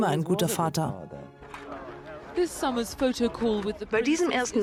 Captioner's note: voiceover